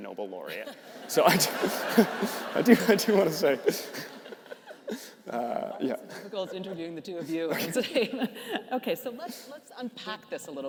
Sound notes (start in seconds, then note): 0.5 participants laughing; 3.9 laughs; 7.7 laughs